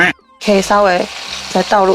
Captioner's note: spit